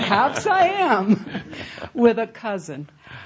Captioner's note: laughter